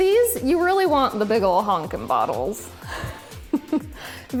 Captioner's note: laughs